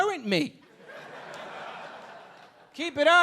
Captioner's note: audience laughing